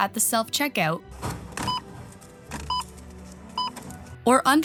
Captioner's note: beeping